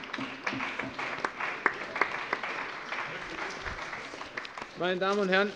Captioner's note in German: Allgemeiner Beifall